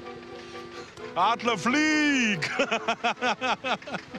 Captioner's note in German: lachend